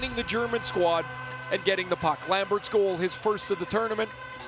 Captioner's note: horn sounding